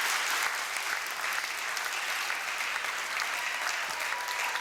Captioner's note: applause